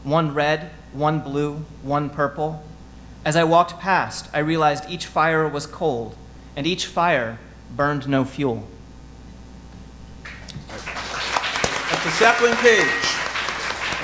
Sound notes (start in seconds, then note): 10.2 audience applauding